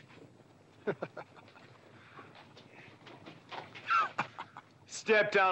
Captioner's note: Bunny scoffing